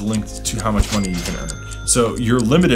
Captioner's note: cash register dinging